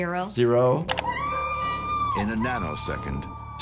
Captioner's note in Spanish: Sandy gritando